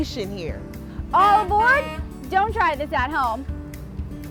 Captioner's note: truck honking